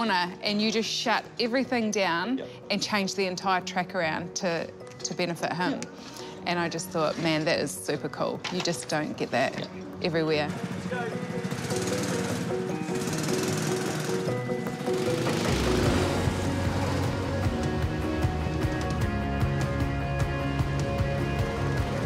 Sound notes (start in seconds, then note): 10.6 engines rumble; 15.7 soaring music